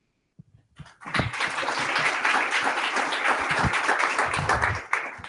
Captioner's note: applause